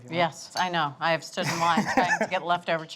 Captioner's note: laughs